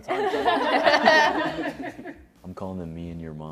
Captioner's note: laughter